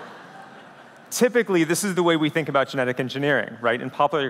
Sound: laughter

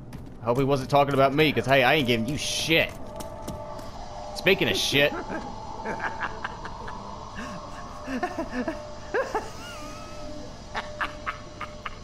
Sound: man on toilet with raat laughing psychotically

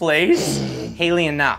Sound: Haley sneers

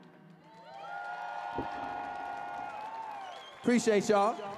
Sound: audience cheering

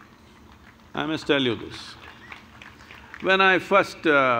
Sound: applause

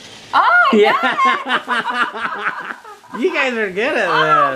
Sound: laughs

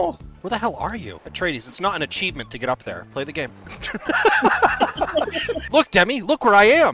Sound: laughter

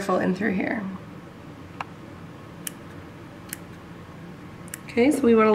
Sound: clipping sounds

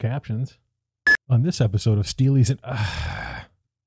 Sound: beep

